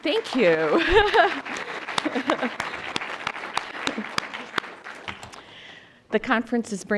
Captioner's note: applause